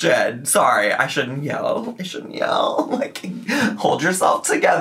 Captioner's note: giggling